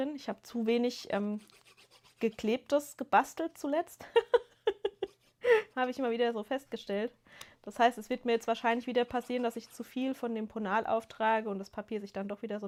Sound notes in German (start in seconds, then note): 4.0 gelächter